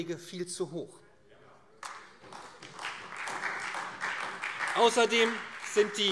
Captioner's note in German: Beifall